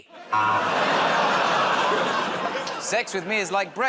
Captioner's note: buzzer